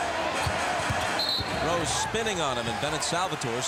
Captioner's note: whistle blows